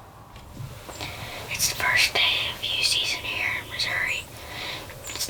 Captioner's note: whispering